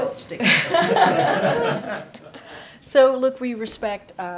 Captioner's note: laughter